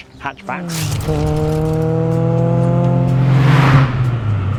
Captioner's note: car roaring